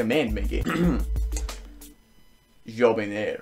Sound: clears throat and pauses for dramatic effect

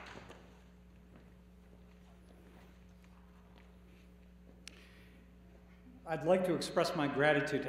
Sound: applause

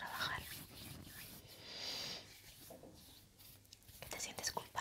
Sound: sound of hands

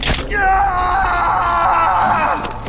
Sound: screaming

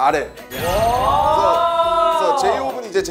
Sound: crowd cheers

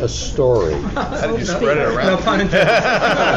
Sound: laughter

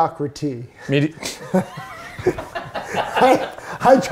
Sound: both laugh

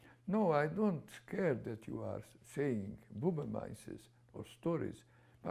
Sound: non-english

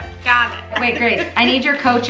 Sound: laughs

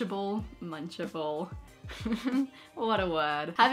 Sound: chuckles

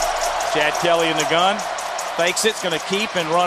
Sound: voiceover

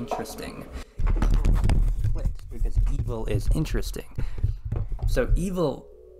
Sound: mic falls

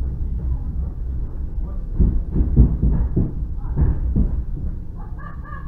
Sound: sound of passengers laughing inside vagon

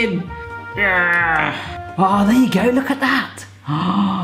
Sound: groaning; gasping

